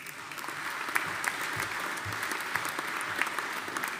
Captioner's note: audience applauding